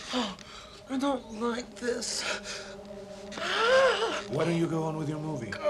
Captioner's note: groans